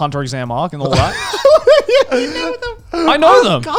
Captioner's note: laugh